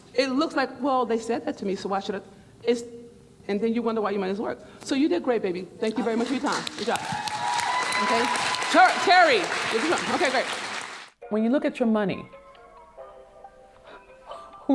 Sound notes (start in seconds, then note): 6.2 clapping and cheering; 13.3 lighthearted music